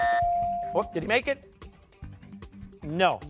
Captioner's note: buzzer sounding